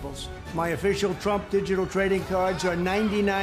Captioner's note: laughter